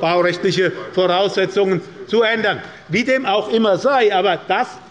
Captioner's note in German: none